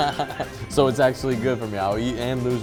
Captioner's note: laughter